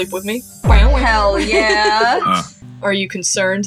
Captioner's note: laugh